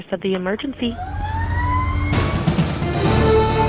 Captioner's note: siren goes off; triumphant music begins